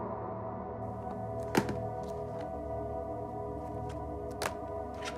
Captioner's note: DVDs clattering